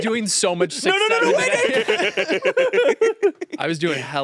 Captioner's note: all laughing